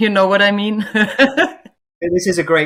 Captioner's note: laughs